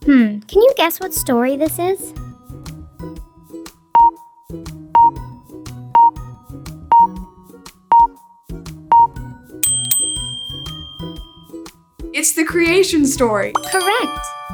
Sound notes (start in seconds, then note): 4.9 timer beeping; 9.6 bell dings